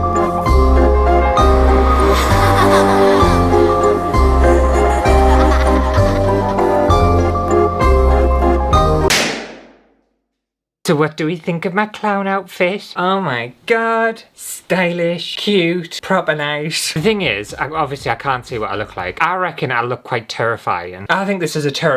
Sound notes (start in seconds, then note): 9.0 pop!!